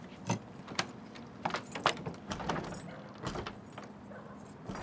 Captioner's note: keys jingle; door rattles